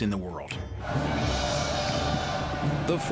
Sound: battle cry

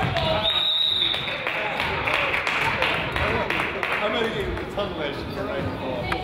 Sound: crowd applauds; whistle blows; crowd chatters

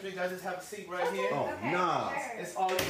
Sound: women agreeing

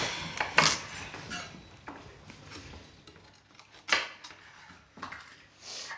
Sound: knife clutters

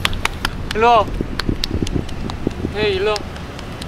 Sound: clapping

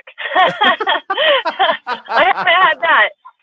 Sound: both laughing

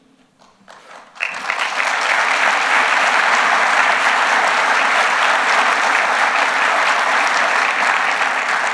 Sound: applause

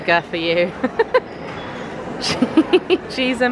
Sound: laughs

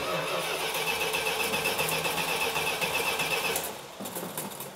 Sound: engine stalling

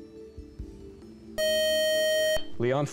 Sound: time-is-out buzzer

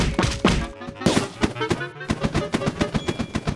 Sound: balloons popping

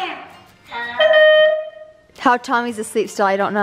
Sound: horn blares

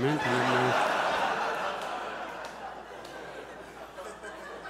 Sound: audience laughs; audience chuckles

